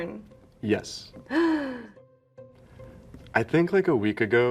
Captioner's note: gasps